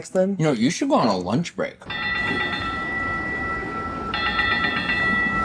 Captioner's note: MAX train bell